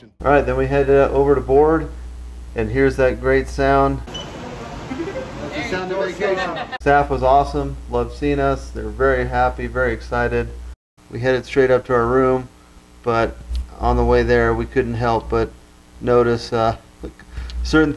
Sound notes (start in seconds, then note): 4.1 computer beeps